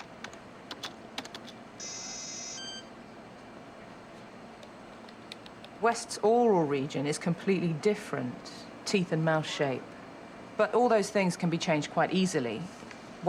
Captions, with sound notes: (keyboard clacks) (computer chirps) West's oral region is completely different. Teeth and mouth shape. But all those things can be changed quite easily.